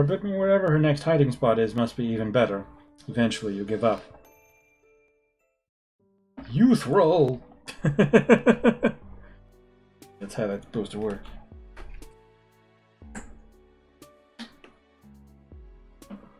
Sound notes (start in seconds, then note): 7.7 laughs